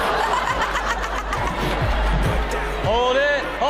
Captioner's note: everyone laughs